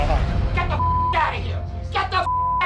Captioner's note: beep